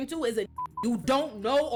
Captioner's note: beep